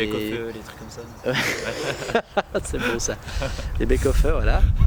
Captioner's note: laughs